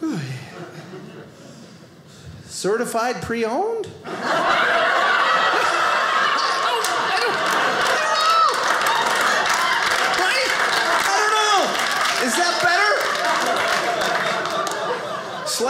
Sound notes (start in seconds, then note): 4.2 audience laughing; 7.3 audience applauding